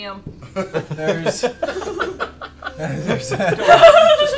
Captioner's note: laughter